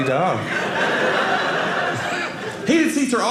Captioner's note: audience laughing